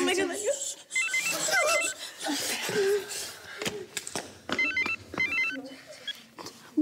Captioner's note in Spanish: sollozos; suena el celular